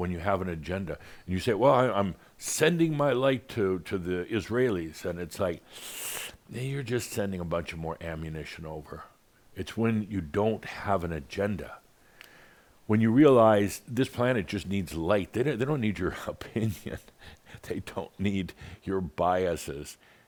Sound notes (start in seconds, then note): 16.4 chuckles